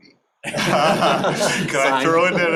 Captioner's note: laughter